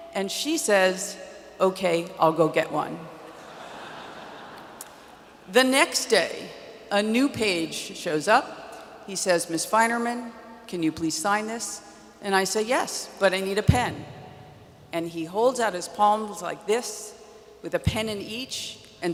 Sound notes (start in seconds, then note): 3.3 audience laughs